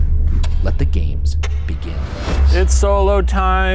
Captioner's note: clock ticks